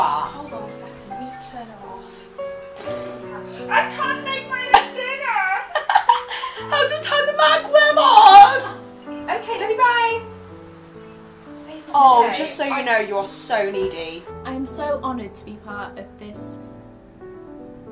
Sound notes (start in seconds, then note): 2.7 laughs; 6.2 funny voice